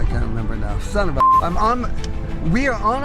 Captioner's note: beep